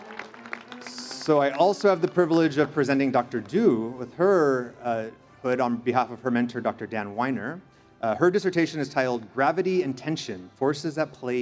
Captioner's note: cheers and Applause